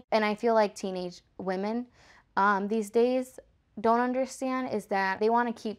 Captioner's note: none